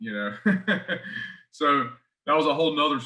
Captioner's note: laughs